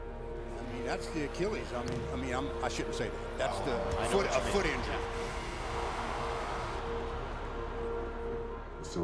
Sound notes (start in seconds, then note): 5.7 buzzer